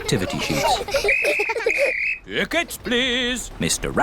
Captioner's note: blows whistle